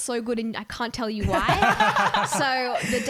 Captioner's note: laughing